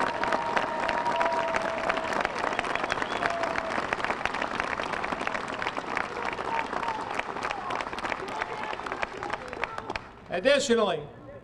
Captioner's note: applause